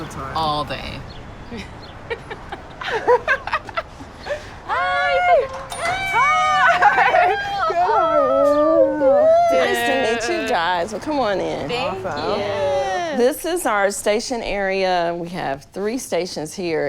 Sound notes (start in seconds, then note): 2.0 laughing; 4.6 exclaiming